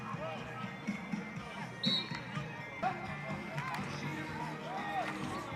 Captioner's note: whistle blows